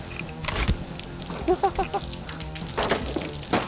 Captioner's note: laughs